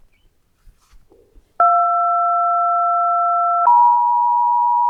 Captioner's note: alarm beeping